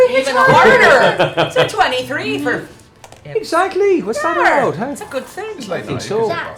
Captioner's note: Irish accent